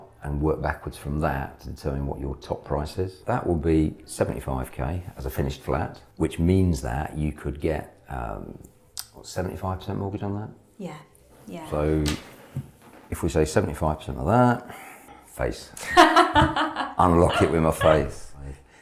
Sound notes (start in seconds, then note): 15.8 laughs